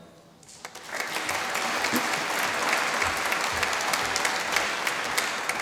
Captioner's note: applause